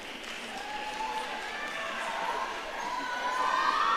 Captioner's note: audience cheering